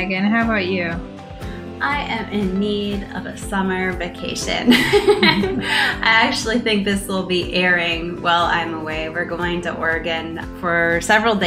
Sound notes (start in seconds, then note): 4.6 laughter